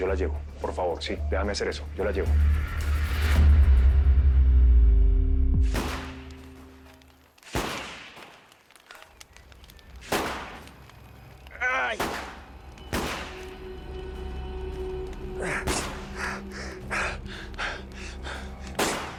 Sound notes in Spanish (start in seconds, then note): 7.4 Disparos; 11.8 Disparos